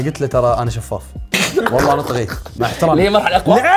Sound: laughs

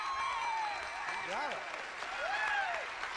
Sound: audience applauding

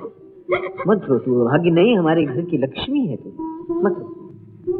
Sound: sobbing

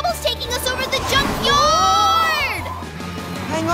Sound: yelling

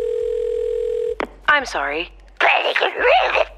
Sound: monster noise

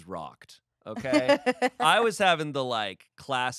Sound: laughs

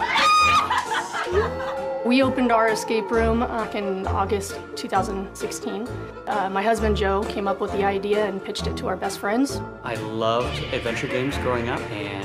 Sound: laughter

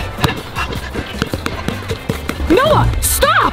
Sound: ball bouncing

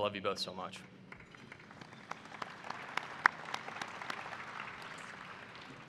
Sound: applause

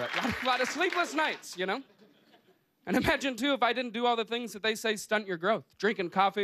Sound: cheers and applause

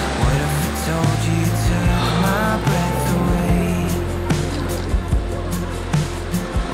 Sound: a deep sigh

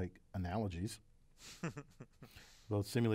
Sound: laugh

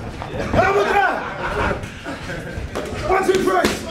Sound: laughing

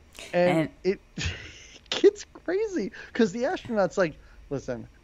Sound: laughs

